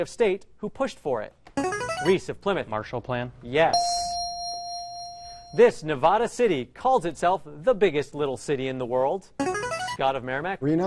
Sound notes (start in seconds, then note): 1.6 ringer; 3.7 ding; 9.4 ringer